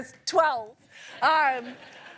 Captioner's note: laughter